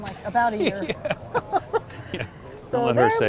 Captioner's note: laughs